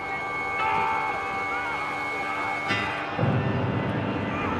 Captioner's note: des hommes crient